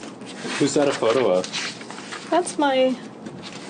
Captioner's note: voiceover